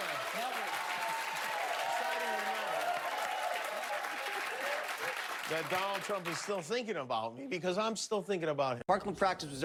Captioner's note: applause